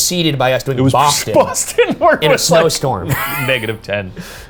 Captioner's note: laughs